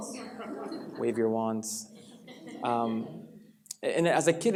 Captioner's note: laughter